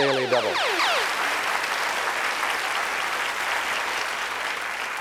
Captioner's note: applause